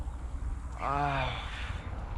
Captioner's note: groaning for stretching